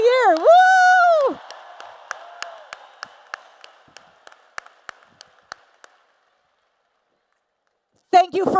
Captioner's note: applause and Cheers